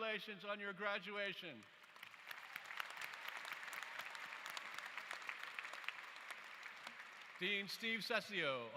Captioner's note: applause